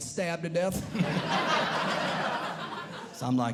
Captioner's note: audience Laughing